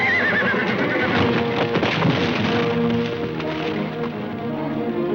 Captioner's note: horse neighing